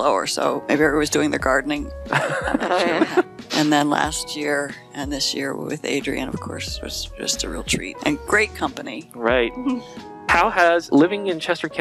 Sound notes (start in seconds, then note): 2.1 laughing